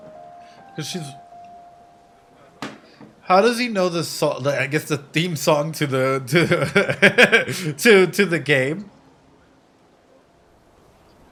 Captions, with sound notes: How does he know the theme song to the game? (laughs) To the game?